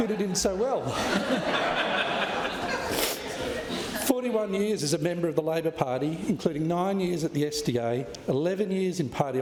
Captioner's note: laughter